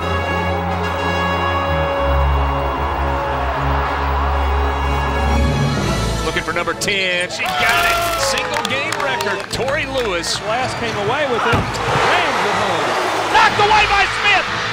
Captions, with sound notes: (triumphant orchestral music) - [Voiceover] Looking for number 10, she got it! Single game record, Torri Lewis. - [Voiceover] Last came away with it, rams it home! (cheering) - [Voiceover] Blocked away by Smith!